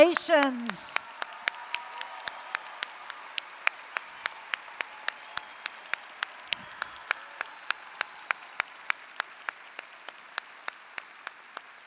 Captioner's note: applause & Cheering